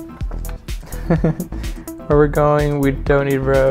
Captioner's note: chuckles